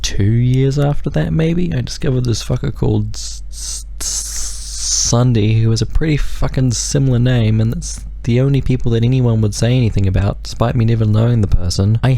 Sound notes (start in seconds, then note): 3.5 hisses